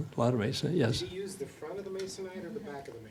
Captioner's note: voiceover